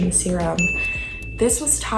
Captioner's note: chime